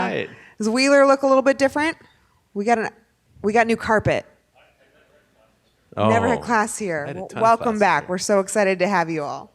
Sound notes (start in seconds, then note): 4.5 man speaking off mic